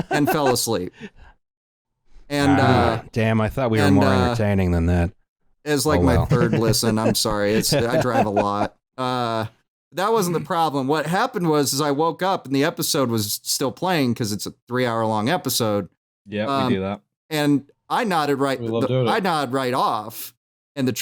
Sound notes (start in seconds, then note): 9.0 laughs